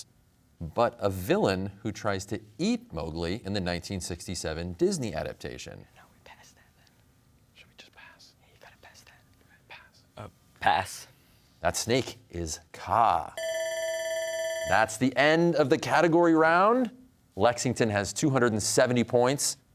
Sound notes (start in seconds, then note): 6.1 whispers; 13.4 bell ringing